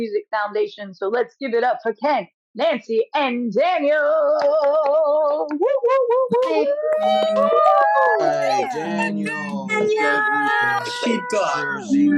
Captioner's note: applause